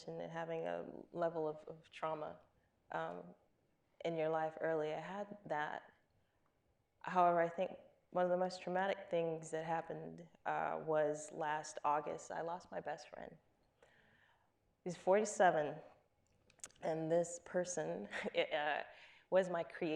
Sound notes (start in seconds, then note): none